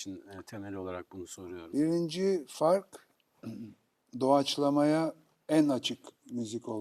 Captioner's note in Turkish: boğazını temizler